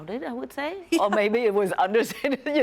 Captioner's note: Kim laughs